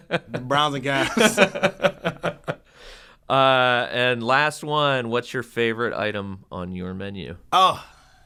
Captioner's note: laugh